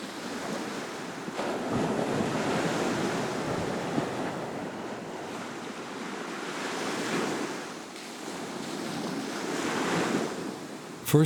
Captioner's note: waves crashing